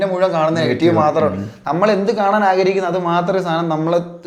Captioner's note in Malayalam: തൊണ്ട ശരിയാക്കുന്നു